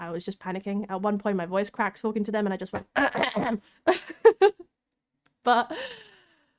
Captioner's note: cough